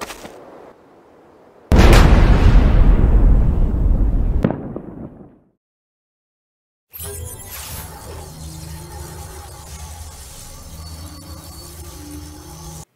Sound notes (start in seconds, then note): 1.7 giant explosion; 6.9 sci-fi portal sounds